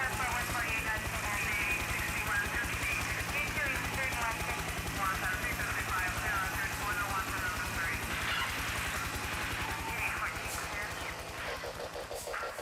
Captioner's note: radio traffic